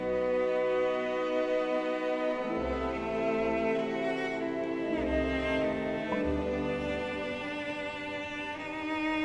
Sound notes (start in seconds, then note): 4.9 careful footsteps